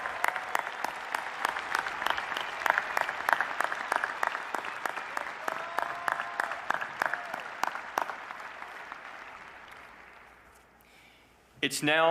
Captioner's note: applause